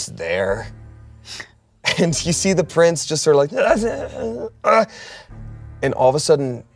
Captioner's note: groans